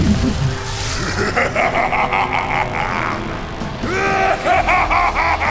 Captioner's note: loud, evil laughter